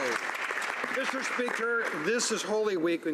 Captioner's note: speaking French